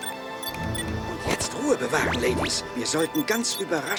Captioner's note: beeping